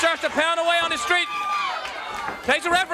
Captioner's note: crowd cheering